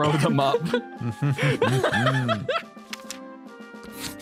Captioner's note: laughs